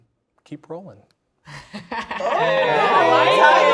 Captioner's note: laughing